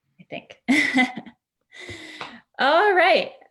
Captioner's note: laughs